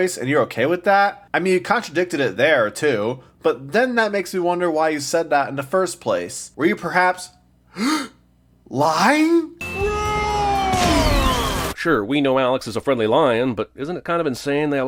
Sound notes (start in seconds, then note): 7.7 gasps